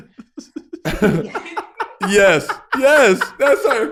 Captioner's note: hosts laughing